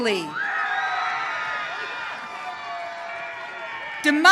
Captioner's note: audience cheering